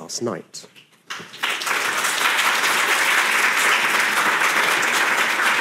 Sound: audience applauding

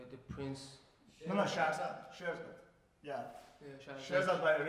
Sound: speaking in farsi

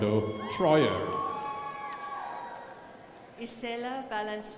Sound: crowd applauding

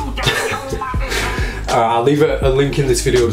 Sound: laughs

